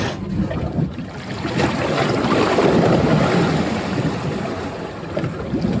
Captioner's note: water burbling and sloshing